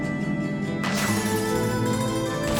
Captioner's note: gunfire